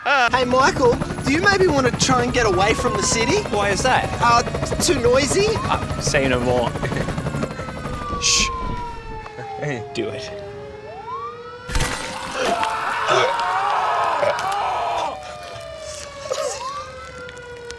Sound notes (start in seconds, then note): 10.5 sirens; 12.0 terrified screams; 14.9 sirens